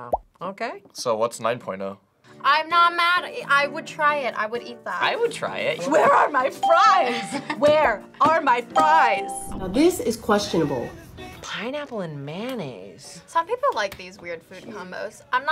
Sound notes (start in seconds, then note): 6.6 bell rings; 7.4 laughs